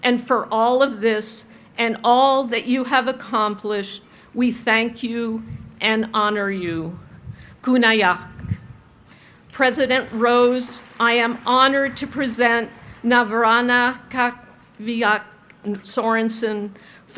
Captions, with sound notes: And for all of this and all that you have accomplished, we thank you and honor you. (speaks in foreign language) President Rose, I am honored to present Navarana K'avigak' Sorensen